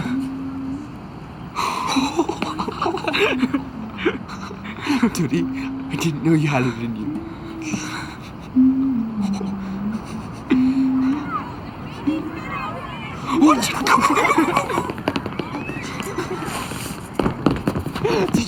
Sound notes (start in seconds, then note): 1.9 laughing; 7.7 woman humming; 13.1 steps clattering